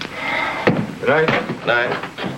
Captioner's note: footsteps thumping